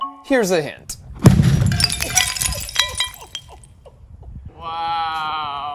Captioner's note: loud explosion; glass shattering